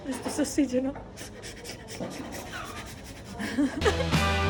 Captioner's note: sniff sniff sniff